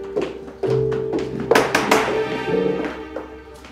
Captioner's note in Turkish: kapı vurulur